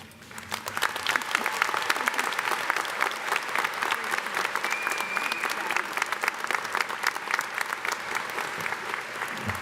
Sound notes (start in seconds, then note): 0.3 audience applauding; 4.6 audience member whistling